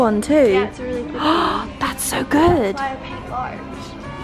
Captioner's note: gasps